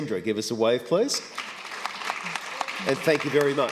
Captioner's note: applause